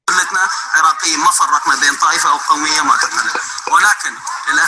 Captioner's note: man speaking foreign language